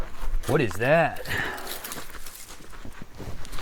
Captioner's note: equipment rattles; soil crunching